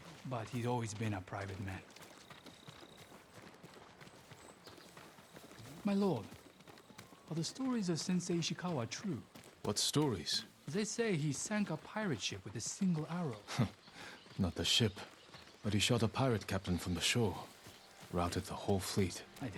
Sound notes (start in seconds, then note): 13.3 laugh